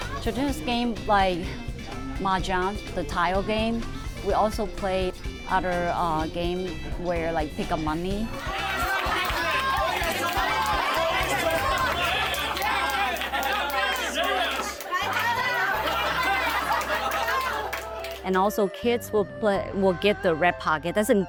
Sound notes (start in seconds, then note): 8.4 people cheering and clapping; 15.9 people laughing and clapping